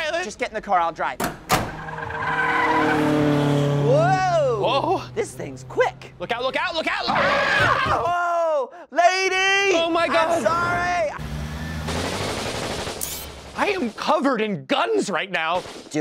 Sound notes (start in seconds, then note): 1.5 squealing tires; 11.9 guns firing